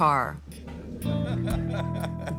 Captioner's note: laughs